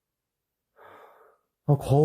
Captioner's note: inhalation